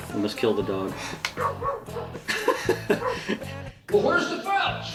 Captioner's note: laughs; dog barks